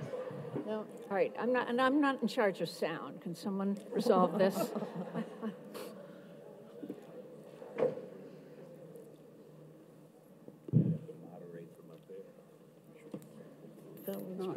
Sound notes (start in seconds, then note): 4.0 audience laughs